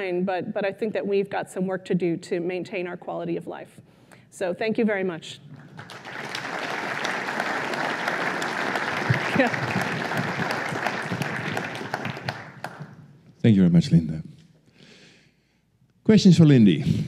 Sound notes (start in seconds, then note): 5.5 applause